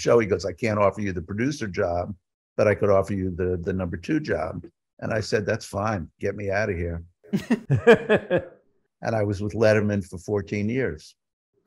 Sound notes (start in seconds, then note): 7.3 laughing